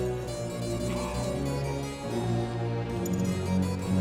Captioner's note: coughing